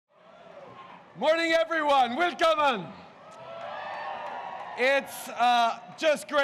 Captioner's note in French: Acclamations